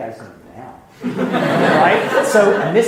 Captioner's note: laughing